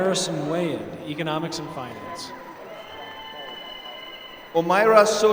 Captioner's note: applause